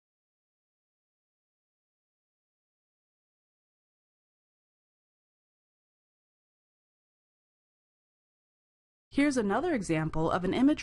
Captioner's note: brief Silence